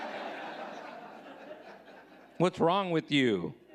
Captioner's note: audience laughing